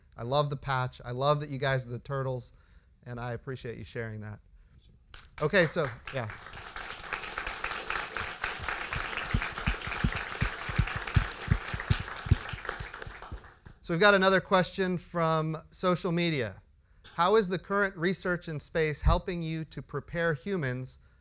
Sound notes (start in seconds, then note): 7.6 applause